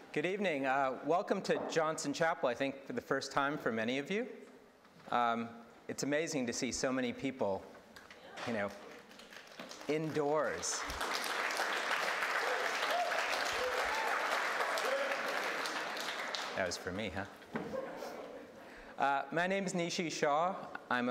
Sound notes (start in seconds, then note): 11.3 audience applauding